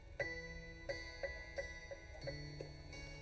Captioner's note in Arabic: دقات الأجراس